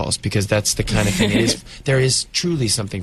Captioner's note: interviewer laughs